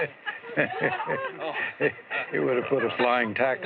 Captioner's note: laughter